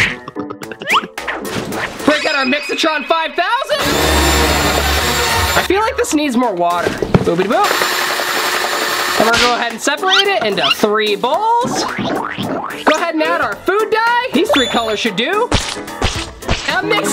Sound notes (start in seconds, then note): 3.8 whisking ingredients; 7.6 whisking ingredients